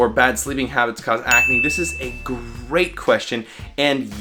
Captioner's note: bell ringing